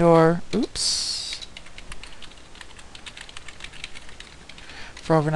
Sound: typing

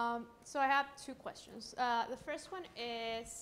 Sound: voiceover

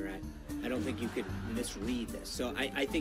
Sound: laugh track

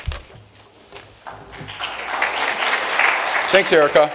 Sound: applause

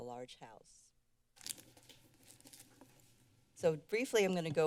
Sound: rustling sound

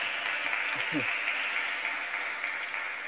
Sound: beat boxing

